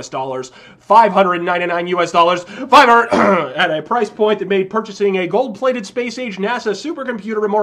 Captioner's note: ahem